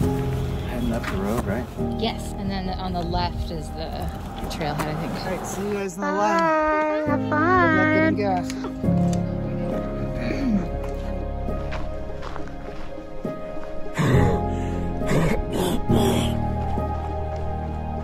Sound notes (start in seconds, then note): 12.2 footsteps crunching; 13.9 gasping and wheezing